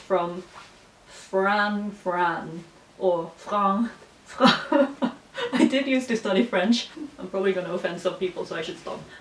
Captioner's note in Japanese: フランス語風に発音